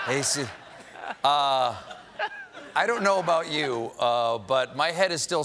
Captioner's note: laughter